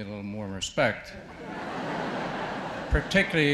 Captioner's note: audience laughs